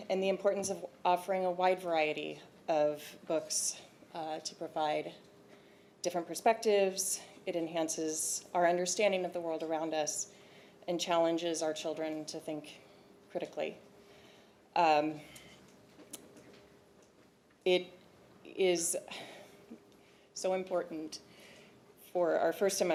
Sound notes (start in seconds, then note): none